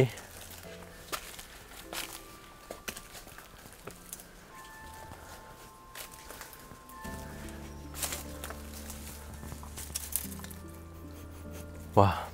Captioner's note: footsteps shuffling